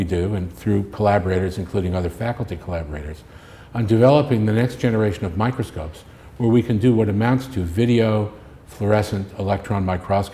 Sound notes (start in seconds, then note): none